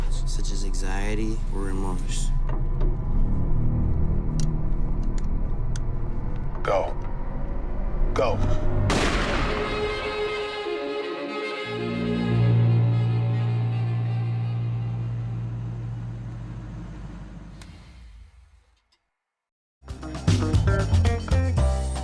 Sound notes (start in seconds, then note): 8.8 gunshot